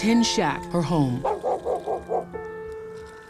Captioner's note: barking